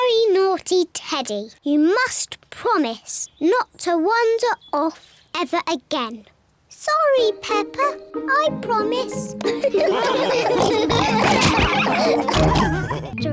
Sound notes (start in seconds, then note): 9.4 all laugh